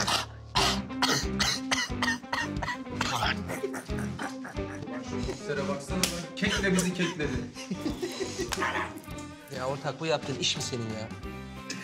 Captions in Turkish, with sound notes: (Öksürüyor) (Gülüyor) Kek ile bizi kekledi. (Gülüyor) Ya ortak, bu yaptığın iş mi senin ya?